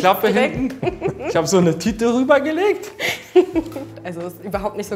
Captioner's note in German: Lachen